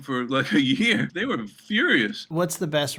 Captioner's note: laughter